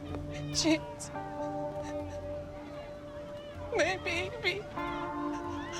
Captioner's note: sobbing